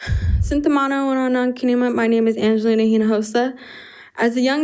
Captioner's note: speaks in foreign language